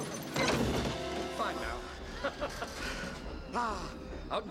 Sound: laughing

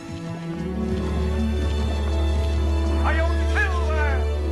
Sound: horse galloping

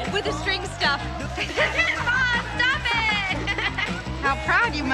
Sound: laughing

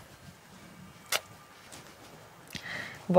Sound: tuts

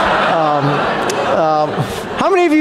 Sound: audience laughs

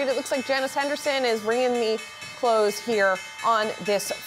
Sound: bell ringing

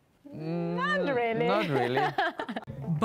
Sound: laughs

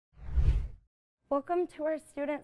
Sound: whoosh

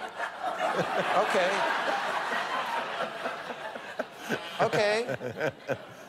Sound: light laughter

